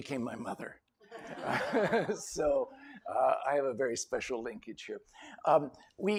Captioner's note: laughter